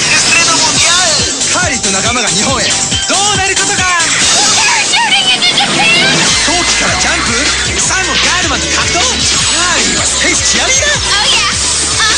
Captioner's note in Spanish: hablando en japonés